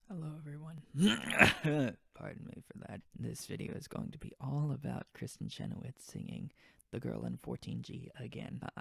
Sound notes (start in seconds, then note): 1.0 clears throat